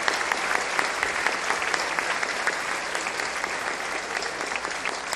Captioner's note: applause